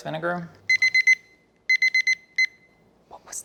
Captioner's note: timer beeps